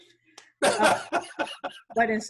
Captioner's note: laughing